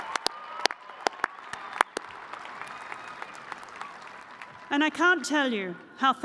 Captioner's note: cheers and applause